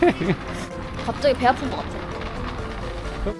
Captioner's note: sob~